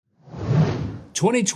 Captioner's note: air swooshes